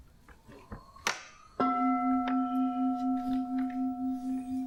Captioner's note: sound of gong